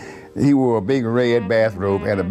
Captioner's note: chuckles